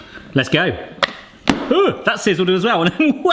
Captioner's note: lid snaps